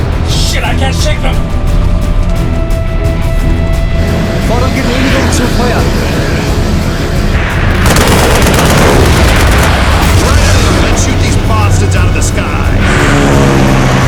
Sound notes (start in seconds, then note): 4.3 speaking German